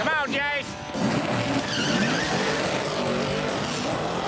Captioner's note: engine revving